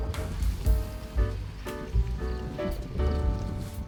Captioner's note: foreshadowing : Ominous Wind